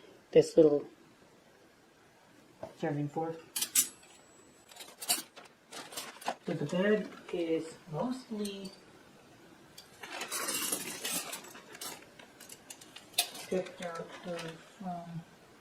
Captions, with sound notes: This little... serving fork. So, the bag is mostly... (Sound of flatware clinking in bag) picked out of, um...